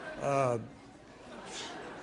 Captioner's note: laughter